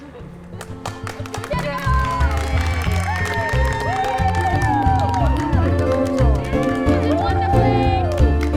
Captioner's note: applause